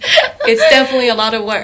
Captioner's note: laughing